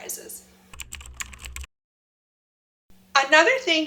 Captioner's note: computer keys tap